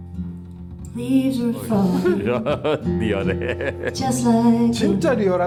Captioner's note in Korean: 웃음